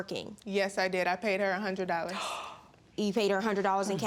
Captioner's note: gasps